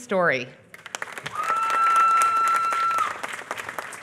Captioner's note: applause